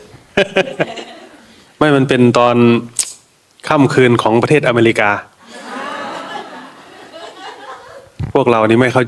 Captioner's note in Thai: เสียงหัวเราะ